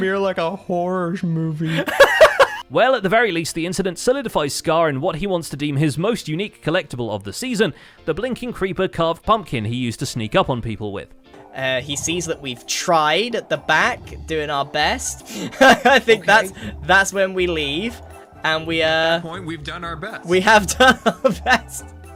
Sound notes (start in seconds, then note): 14.6 laughs